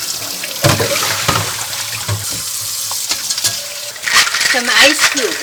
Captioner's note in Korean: 물 흐르는 소리; 냄비 달그락거리는 소리